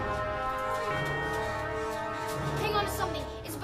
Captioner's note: none